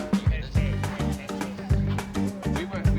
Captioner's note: chatter